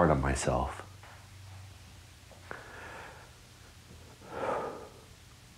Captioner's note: breathes deeply